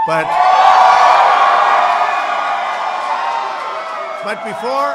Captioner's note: applause